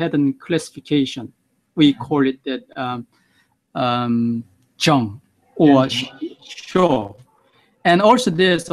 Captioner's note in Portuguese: em Japonês